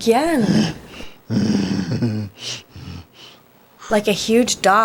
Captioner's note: Groden grumbles